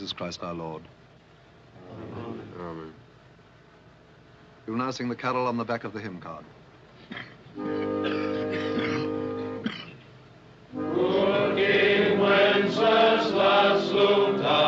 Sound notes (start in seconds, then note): 7.0 coughing